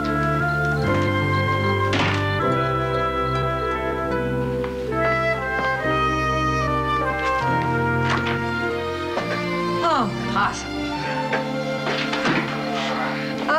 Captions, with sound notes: Oh, impossible. (WILLIE GRUNTS) Ah!